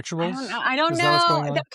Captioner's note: sighs